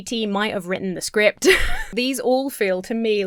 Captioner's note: Emma laughs